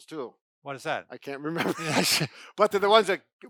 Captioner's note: laughs